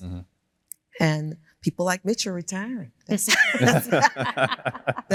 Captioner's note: laughs